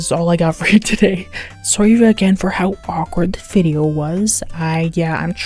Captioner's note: inhales